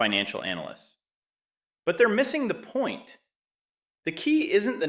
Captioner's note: sarcastic